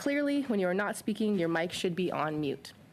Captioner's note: speaking French